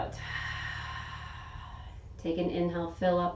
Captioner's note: exhaling